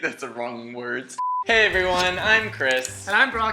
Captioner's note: beep